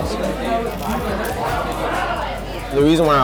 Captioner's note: crunching